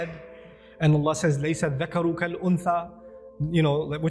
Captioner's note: Arabic